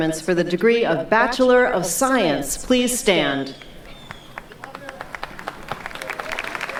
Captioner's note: clapping